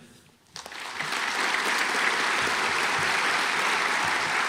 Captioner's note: audience applauds